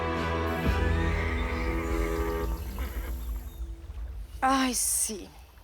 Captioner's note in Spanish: Relinchos